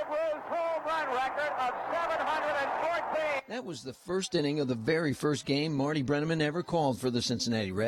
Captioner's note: cheering